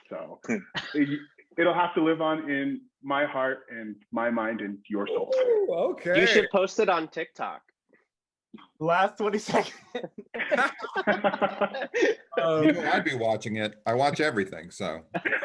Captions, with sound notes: So it'll have to live on in my heart and my mind and your soul. - You should post it on Tik Tok. - The last 20 seconds (laughs). (all laugh) - I'd be happy watching it. I watch everything so.